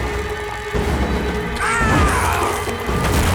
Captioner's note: groaning